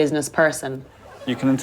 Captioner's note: laughter